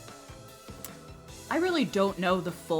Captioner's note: clicks tongue